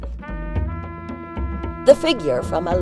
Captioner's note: audio book continues